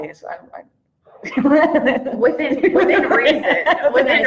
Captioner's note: laughs